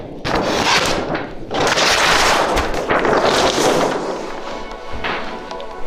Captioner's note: paper flapping; paper tearing; uplifting music